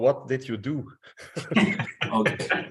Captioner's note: laughing